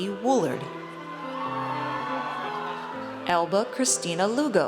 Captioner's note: audience cheers